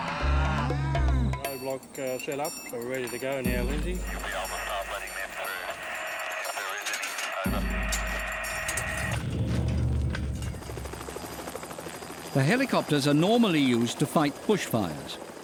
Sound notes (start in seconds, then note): 4.3 man on radio; 10.8 blades whirring